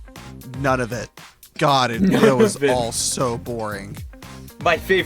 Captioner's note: laughing